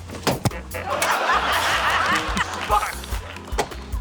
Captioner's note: laughter